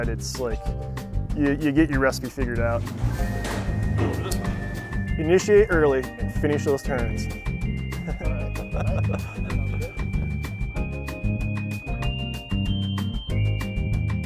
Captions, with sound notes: it's like, you get your recipe figured out. Go for this one. Initiate early and finish those turns. (laughs) (upbeat music)